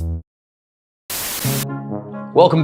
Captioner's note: electronic music; static